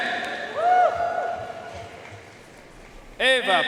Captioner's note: audience cheering and applauding